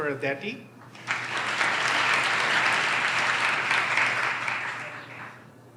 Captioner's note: audience applauds